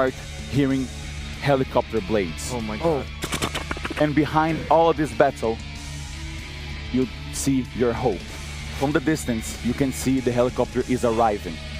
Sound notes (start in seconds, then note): 2.8 helicopter arriving